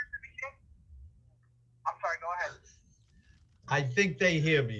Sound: audio interruption

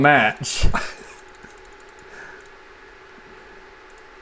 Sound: speechless disbelief; mouse Clicking

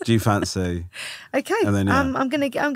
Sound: laughing

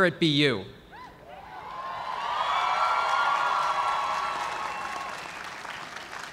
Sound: cheers and applause

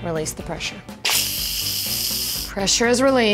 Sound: air hissing

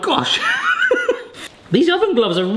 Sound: laughs

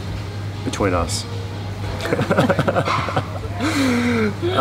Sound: laughing

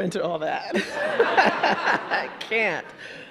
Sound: audience laughing

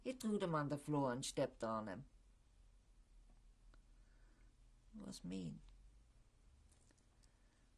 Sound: pauses for 3 seconds

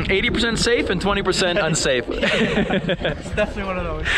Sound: laughing

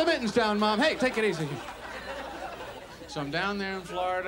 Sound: audience laughs

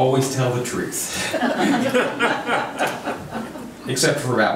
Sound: crowd laughs

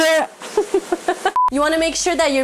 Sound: laughs softly

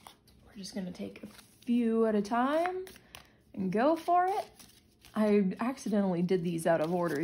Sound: shuffles

